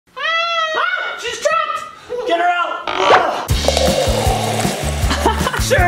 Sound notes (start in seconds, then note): 0.2 muffled yelling; 3.5 water pouring